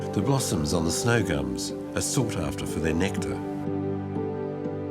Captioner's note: none